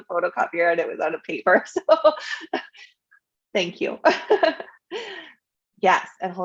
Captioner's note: laughs